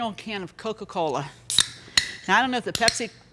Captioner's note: soda can cracking and soda fizzing